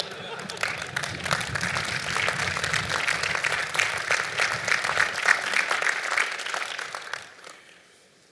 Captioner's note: applause